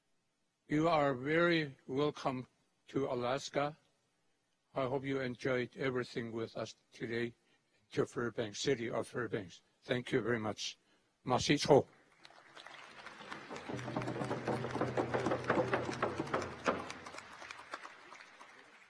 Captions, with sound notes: You are very welcome to Alaska. I hope you enjoyed everything with us today, Fairbanks, city of Fairbanks. Thank you very much. (speaks in a foreign language) (applause)